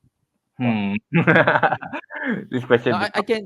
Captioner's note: laughter